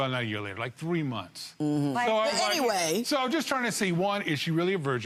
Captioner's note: none